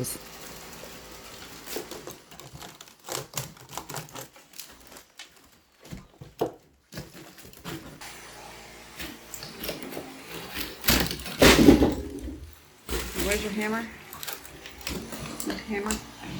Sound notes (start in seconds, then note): 10.7 splintering wood